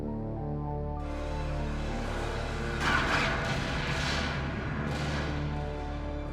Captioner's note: music and explosions sounding on TV